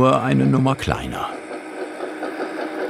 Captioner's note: engine noises